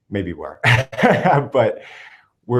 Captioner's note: laughs